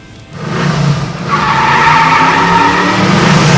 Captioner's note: revs cart